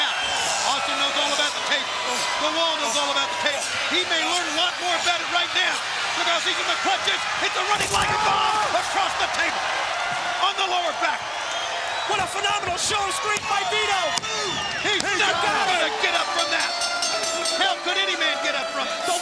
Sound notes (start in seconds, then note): 15.8 bell ringing